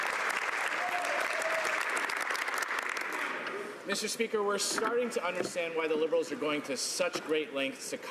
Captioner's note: some Applause